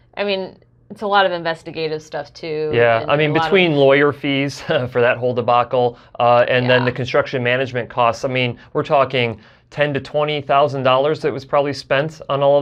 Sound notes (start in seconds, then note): 6.5 chuckles